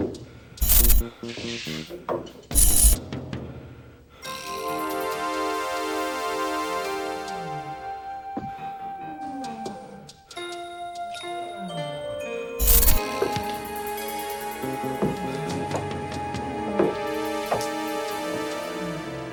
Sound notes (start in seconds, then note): 0.1 dramatic music; 14.3 footsteps tapping; 16.3 dramatic music